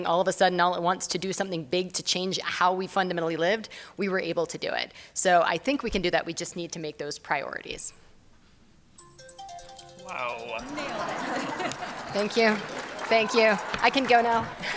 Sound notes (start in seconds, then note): 9.0 alarm ringing